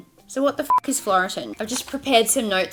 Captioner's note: beeps